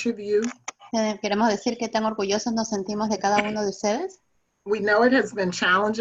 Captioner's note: speaking in foreign language